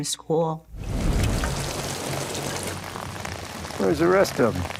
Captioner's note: rain falling